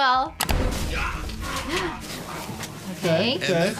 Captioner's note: man groans; gasps